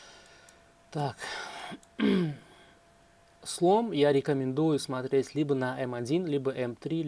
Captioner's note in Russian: откашливается